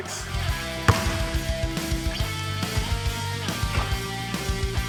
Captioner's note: bright music continues; ball thuds